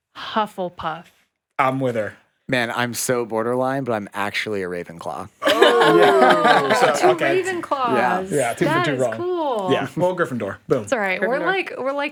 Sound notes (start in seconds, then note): 5.4 all laugh